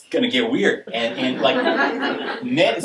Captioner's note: audience laughing